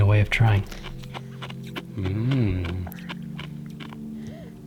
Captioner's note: mouth crunching